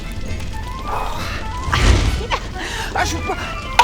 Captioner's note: nervous laugh